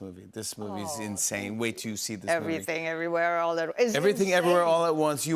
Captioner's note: none